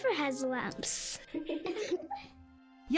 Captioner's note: giggling